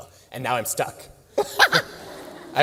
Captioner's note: laughter